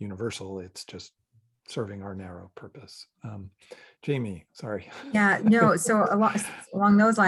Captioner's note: chuckles